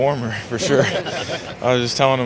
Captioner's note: laughter